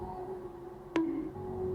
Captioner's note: bonk